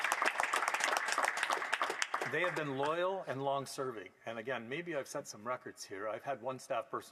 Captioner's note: applause